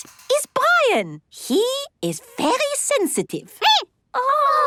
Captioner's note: squeaking